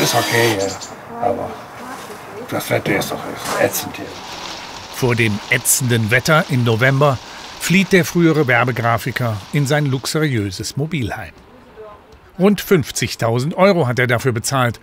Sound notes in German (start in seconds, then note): none